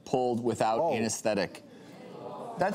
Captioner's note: audience gasps